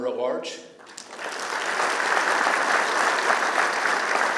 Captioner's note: applause